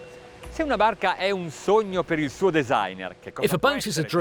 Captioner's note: speaking in foreign language